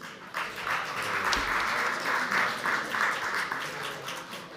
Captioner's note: audience applauds